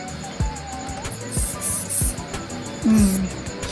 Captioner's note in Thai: เสียงพ่นสเปรย์